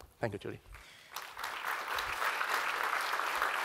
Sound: applause

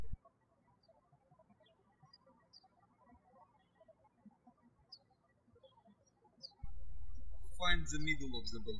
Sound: birds chirping

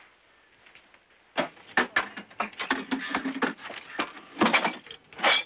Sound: scrap clanging

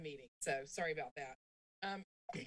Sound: clears throat

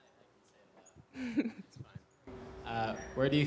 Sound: laughs

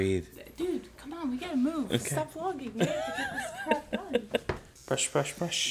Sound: laughing

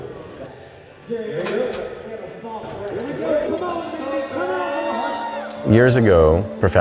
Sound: announcer speaking; crowd cheering

